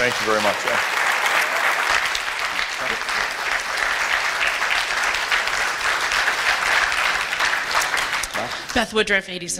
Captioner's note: applause